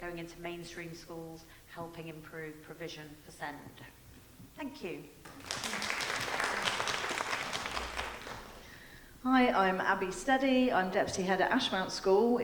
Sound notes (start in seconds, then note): 5.2 audience applauding